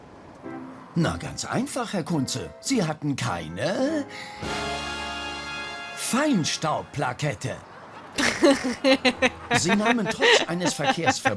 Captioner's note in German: lacht